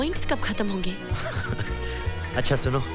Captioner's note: Laughs